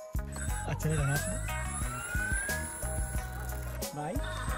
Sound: engine whizzing

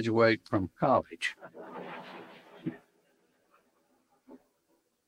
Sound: audience laughing

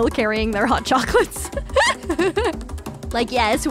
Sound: laughing

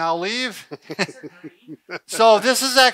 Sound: laughing

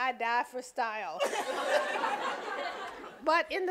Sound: audience laughing

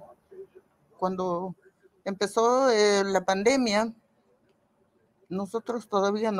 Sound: speaking in foreign language

